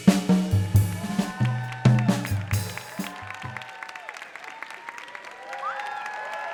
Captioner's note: audience applauding and cheering